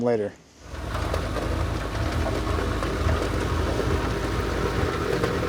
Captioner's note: vehicle rumbling